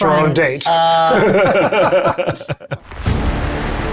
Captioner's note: chuckle; dramatic adventurous music